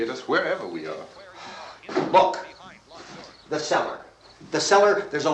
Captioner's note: sighs